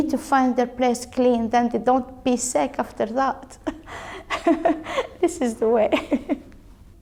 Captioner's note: laughs